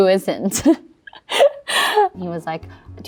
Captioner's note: laughs